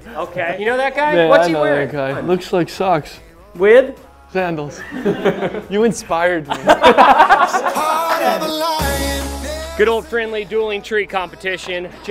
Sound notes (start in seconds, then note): 6.4 laughter